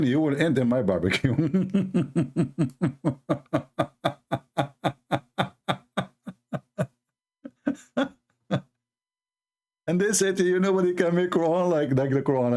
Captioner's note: Ketawa